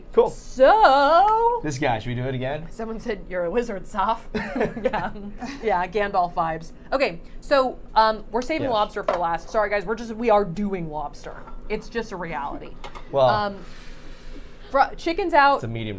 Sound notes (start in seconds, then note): 4.3 all laughing